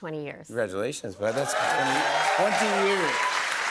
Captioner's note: cheers and applause